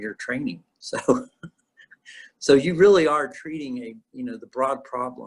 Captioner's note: laughs